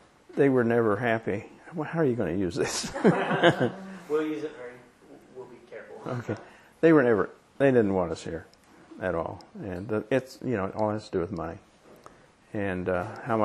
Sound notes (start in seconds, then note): 2.7 laughter